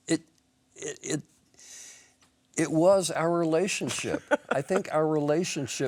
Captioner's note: Marianne laughs